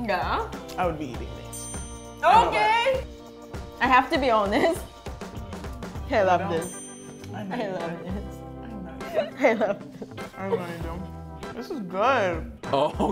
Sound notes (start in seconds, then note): 8.8 laughing